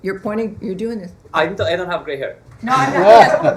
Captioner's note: laughter